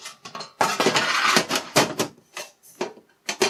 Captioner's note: metal scrapes